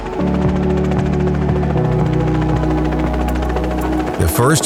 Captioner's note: blades whooshing